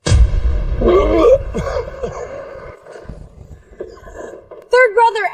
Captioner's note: dramatic music; screaming